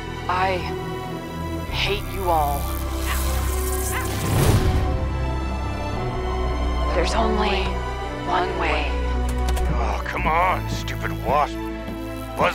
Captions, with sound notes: - I hate you all. (wasp buzz) (electric crackle) (whoosh through air) ( dramatic music) - There's only one way. (door clicking open) - Ah come on, stupid wasp. Buzz off.